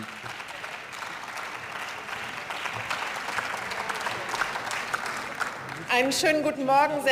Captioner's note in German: Beifall